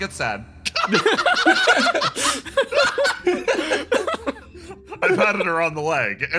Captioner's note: laughs